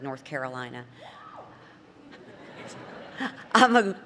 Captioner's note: laughter